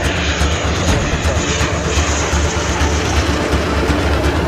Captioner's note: engine roaring